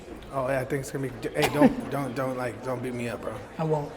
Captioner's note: Gary laughs